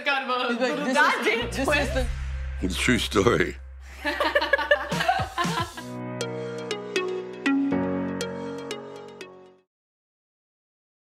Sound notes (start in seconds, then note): 3.9 girls laugh